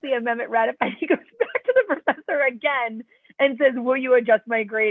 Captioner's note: laughter